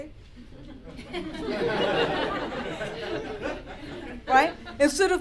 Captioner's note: laughter